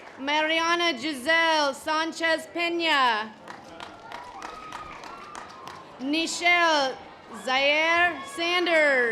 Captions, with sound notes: Mariana Giselle Sanchez Pena. (audience applause) Nishel Zaer Sanders.